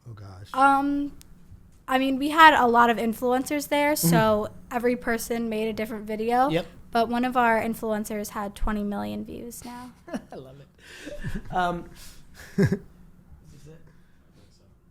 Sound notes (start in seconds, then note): 12.4 laughs